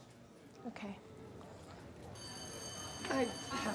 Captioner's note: school bell rings